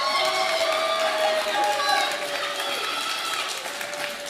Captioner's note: audience applauding